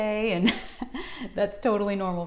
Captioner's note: chuckles